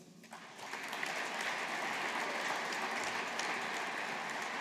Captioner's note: audience applauding